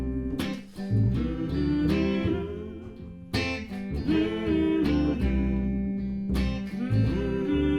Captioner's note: humming